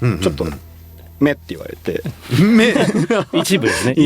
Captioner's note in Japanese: 笑い